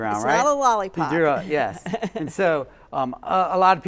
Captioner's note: laughs